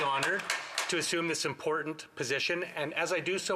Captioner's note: some Applause